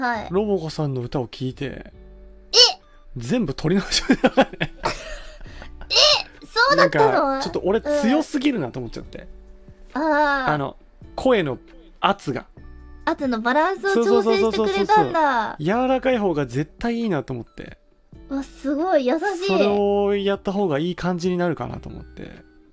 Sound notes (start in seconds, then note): 3.8 laughs; 5.0 Roboco wheezes